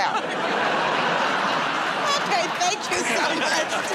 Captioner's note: laughter and applause